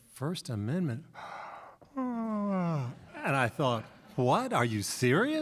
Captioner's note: yawns